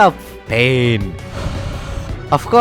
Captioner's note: defeated Sigh